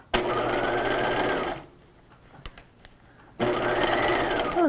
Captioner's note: machine whirring